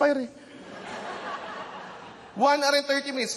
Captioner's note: laughter